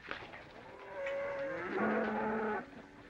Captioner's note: cattle mooing